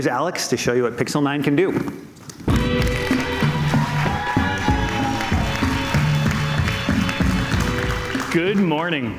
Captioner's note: cheers and Applause